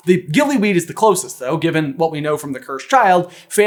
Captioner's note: none